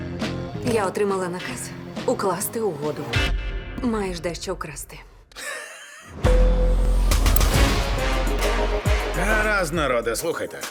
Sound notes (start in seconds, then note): 5.4 laughs; 7.1 energetic music playing